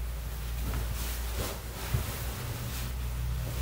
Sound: rustling of bed sheets

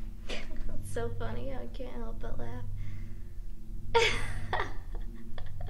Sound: laughs

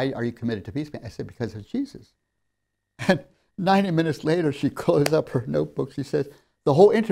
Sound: laughs

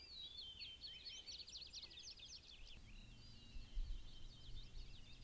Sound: birds chirping

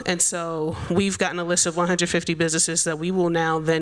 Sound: none

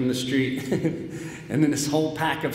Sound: laughs

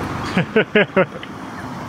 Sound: laughs

